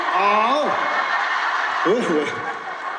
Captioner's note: hahaha